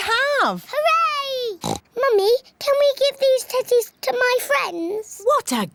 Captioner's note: oinks